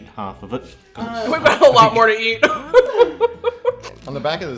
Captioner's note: laughs